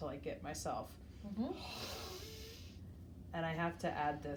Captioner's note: breathing deeply